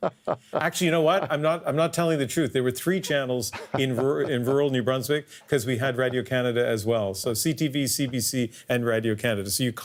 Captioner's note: laughter